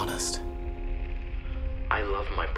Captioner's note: crackling of recording